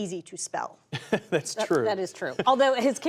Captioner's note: laughter